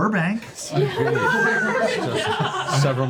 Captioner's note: laughter